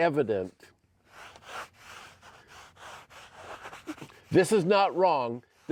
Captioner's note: soft scraping